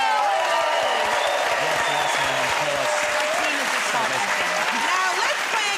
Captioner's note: cheers and applause